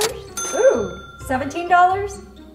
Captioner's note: cash register dinging